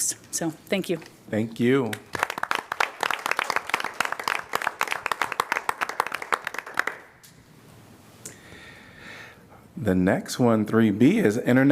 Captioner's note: applause